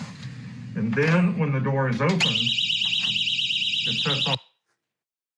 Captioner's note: alarm sound